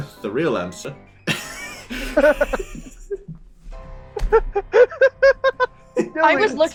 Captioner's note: laughter